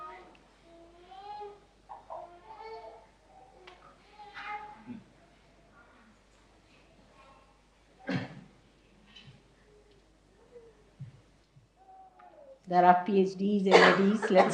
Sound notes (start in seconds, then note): 0.8 lengthening silence; 8.4 Shri Mataji laughs